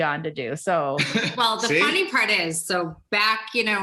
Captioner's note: chuckles